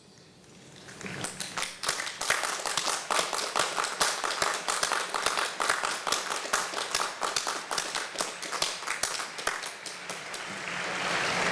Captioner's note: applause